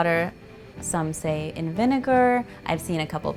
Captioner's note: none